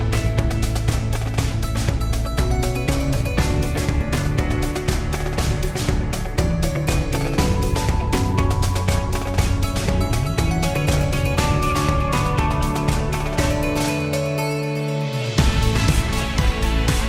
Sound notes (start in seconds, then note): none